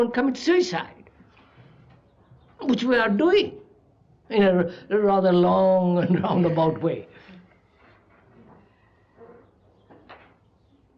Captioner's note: laughs